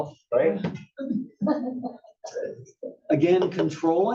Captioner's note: laugh